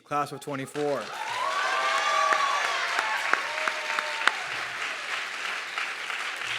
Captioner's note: audience clapping and cheering